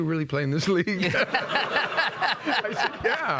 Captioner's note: all laughing